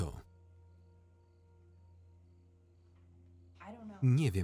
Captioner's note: crickets chirping; tense music